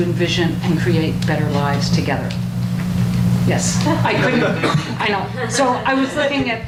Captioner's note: audience laughs